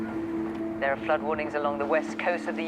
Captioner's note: radio